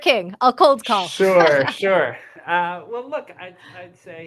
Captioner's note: laughs